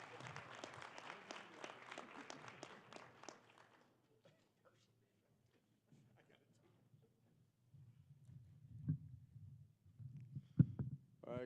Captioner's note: applause